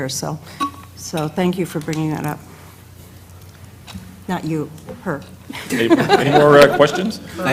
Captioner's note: laugh